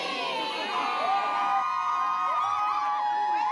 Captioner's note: all cheer